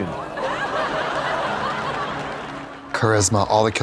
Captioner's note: audience laughs